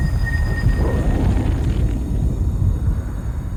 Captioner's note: thunder rumbling; static cracking